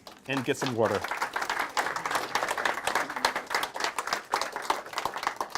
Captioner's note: group applauds